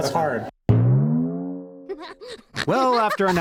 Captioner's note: bang